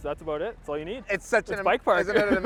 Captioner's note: laughs